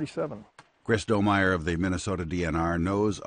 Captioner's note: voiceover